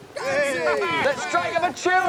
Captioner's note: men cheer